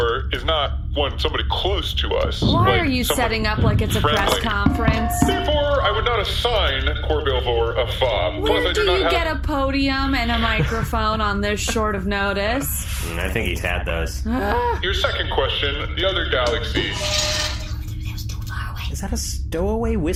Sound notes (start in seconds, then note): 4.8 speaking into mic; 14.9 angry groan; 19.0 whispering